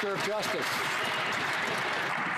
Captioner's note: some Applause